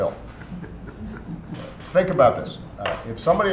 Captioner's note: laughter